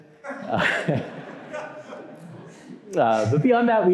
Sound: laughing

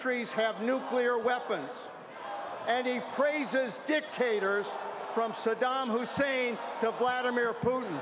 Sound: cheers and applause

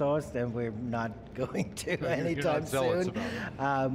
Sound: laughs

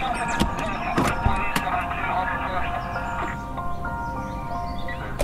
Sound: car door clicking

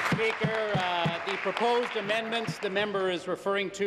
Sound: applause

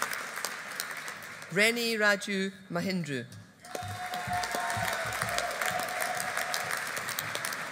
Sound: audience applauding

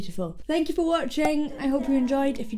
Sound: graphics pop

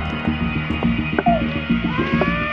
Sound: baby crying

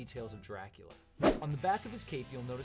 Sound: swoosh

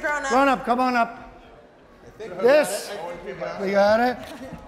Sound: helpers chattering

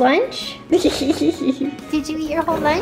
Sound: laughing

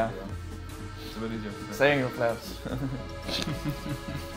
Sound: laughs

